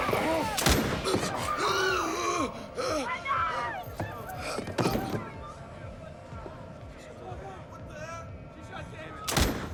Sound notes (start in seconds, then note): 1.1 gasping